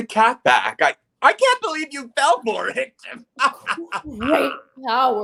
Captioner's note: laughs